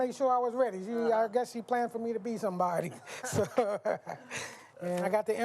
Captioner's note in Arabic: يضحك